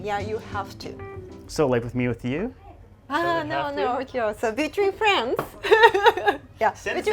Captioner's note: laughs